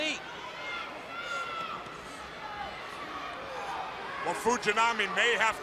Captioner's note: crowd chatter